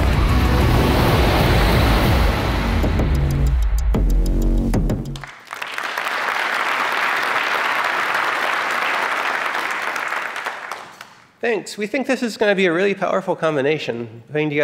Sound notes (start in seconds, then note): 5.1 applause